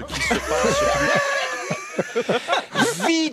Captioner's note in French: rires